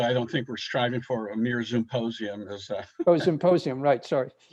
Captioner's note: laughing